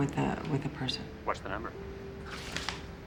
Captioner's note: rustling